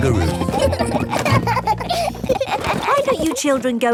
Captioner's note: children laughing